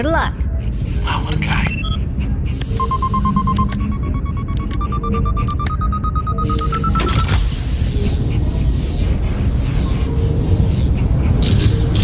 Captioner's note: device loads, humming with a calming power